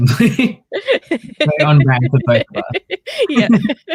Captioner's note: laughs